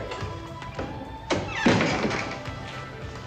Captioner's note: door latch clicks